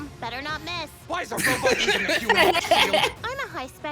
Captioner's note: laughs